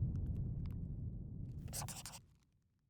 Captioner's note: scribbling